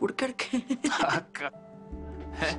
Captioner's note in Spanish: Risas